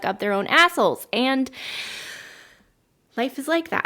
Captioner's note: deep inhale